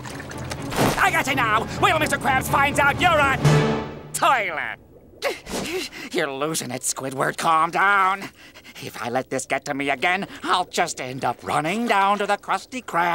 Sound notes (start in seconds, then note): 5.3 panting